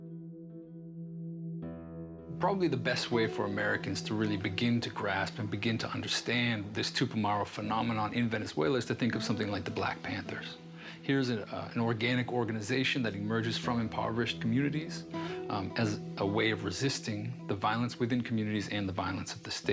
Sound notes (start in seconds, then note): none